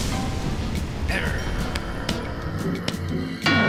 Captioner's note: growls